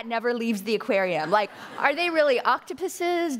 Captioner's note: audience laughing